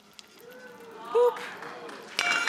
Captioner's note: audience applauding